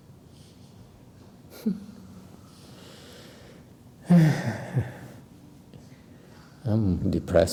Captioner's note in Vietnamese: sigh